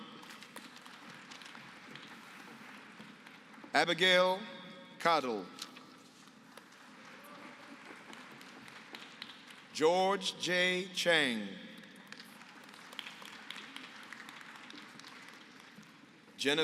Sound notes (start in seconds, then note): 0.0 applause; 6.4 applause; 11.8 applause